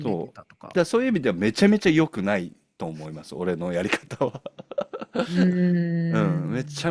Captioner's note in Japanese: 笑い